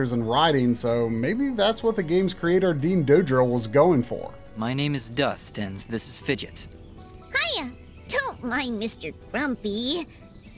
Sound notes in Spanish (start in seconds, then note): 4.0 audio del juego